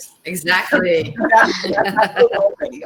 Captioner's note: laughter